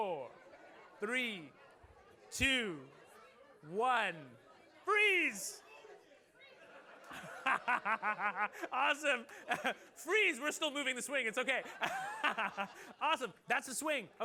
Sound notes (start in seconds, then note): 6.4 laughter